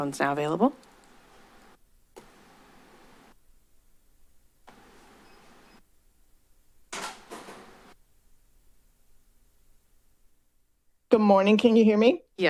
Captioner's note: silence